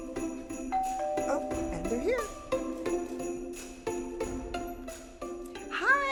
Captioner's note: doorbell rings